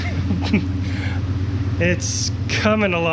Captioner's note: soft chuckling